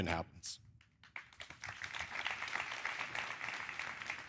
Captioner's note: applause